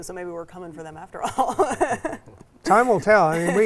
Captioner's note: laughs